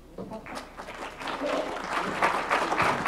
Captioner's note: applause